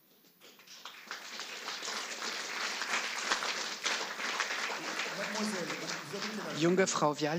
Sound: applause

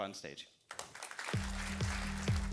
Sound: applause

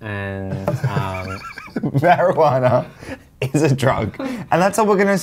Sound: laughs

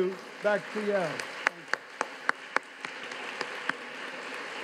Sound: audience claps

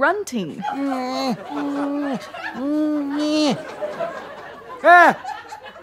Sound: weak grunting

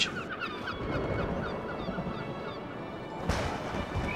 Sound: thunder booms

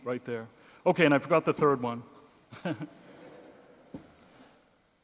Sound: laughs

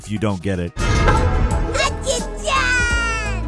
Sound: manhole cover clanks

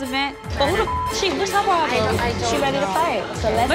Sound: beep

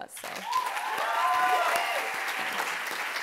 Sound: applause

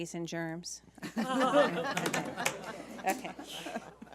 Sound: laughing

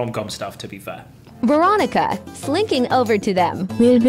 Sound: AI Voice

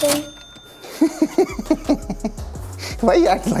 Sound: laughs happily

